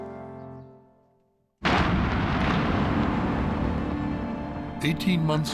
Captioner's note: explosion roars